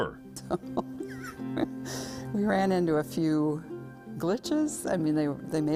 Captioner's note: laughs